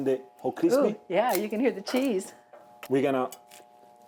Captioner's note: cheese crunches